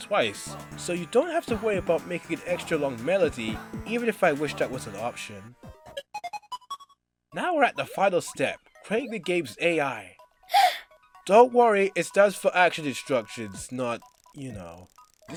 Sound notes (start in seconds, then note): 10.5 gasps